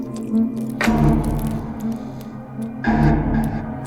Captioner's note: clicking noise